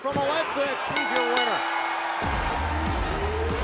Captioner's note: bell ringing